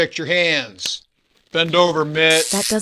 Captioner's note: snap